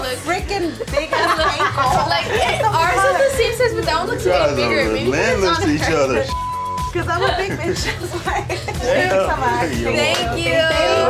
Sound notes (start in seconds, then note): 6.1 beeping; 7.0 all laughing